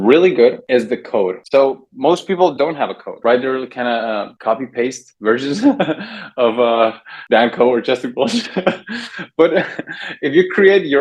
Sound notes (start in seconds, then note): 8.2 laughs